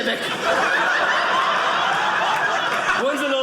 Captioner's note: audience laughing